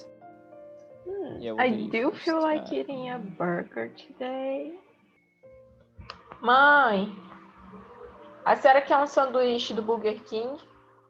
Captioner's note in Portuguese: Falando em Portugues